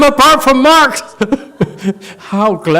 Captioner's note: laughs